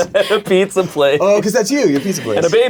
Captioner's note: laughs